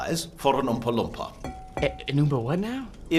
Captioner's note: glass tinks